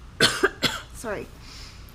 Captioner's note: coughing